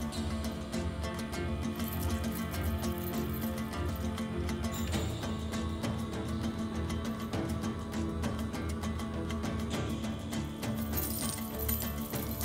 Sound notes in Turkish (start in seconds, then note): 1.7 Metal sikke şıngırtı sesi; 7.4 Müzik - Gerilim